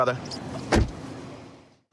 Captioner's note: door shuts